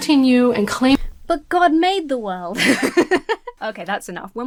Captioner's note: laughs